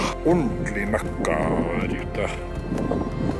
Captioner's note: more whining